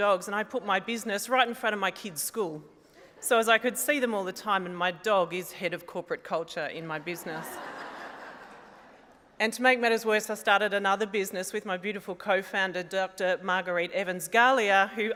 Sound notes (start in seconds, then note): 7.1 laughter